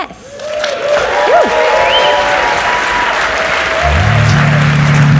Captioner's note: audience cheers and applauds